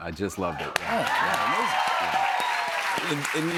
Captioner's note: cheers and applause